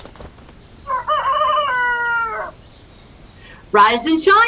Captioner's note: rooster crowing